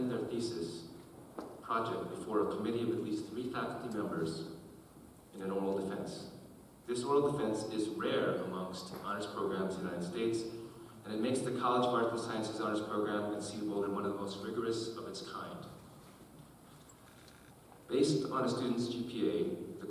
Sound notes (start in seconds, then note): none